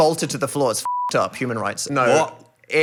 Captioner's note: beeping